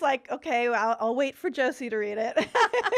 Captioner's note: laughing